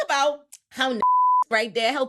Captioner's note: beep